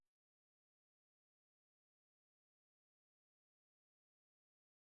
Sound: silence

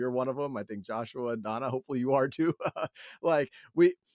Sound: laughs

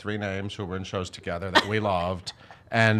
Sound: laughing

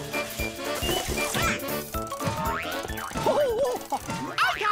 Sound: cranking

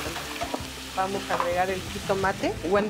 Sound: speaking Spanish

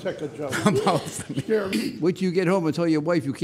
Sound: giggles

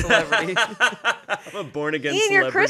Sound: laughing

